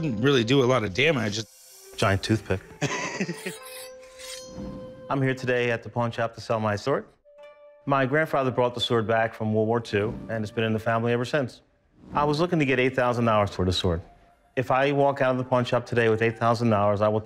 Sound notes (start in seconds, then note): 2.8 laugh